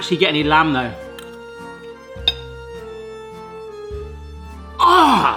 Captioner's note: munching